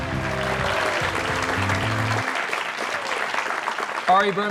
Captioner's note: audience applauds